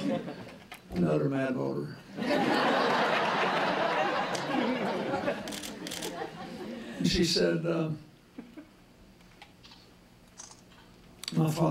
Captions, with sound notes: DEADLY SERIOUS, I THOUGHT, OH, ANOTHER MAD VOTER. [LAUGHTER] SHE SAID, UH, MY FATHER HAD